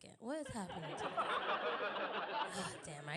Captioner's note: audience Laughing